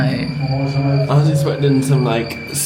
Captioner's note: crickets chirping